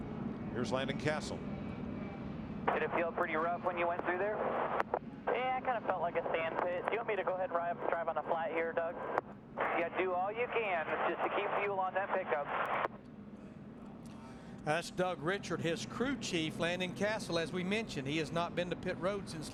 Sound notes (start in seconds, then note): 8.8 radio